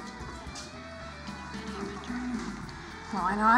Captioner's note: whispers